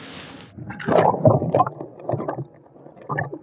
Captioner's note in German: Gluckern